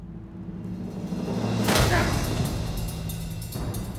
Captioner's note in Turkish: Vurma sesi